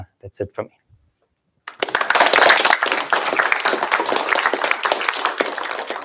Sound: applause

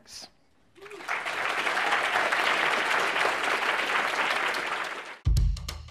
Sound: applause

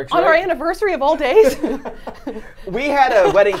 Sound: laughs

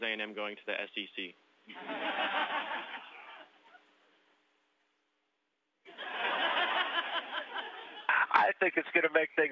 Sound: laughter

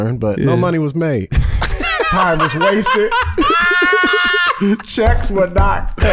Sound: laughs

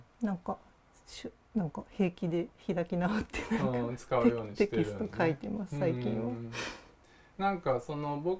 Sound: laugh

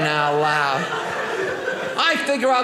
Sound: audience laughing

